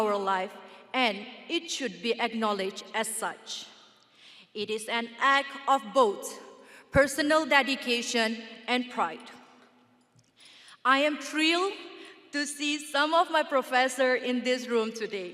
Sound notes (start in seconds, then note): none